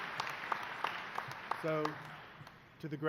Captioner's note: applause